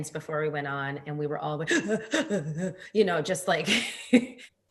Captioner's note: breathing heavily